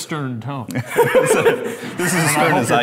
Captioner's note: laughing